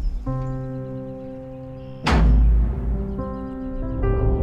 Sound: echoing thud

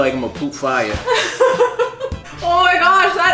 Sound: laughing

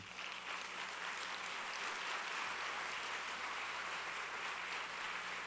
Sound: applause

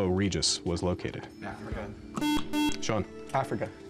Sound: whispering

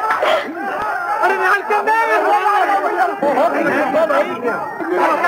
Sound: muffled shouts

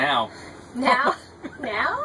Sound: laughs

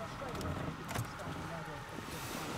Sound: car door unlocks

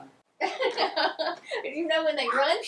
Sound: laughing

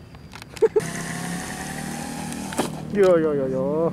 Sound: giggle

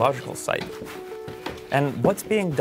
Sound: footsteps thumping

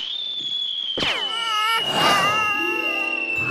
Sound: crying

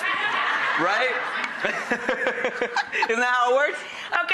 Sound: laughs

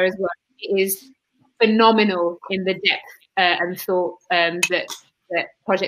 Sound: erm

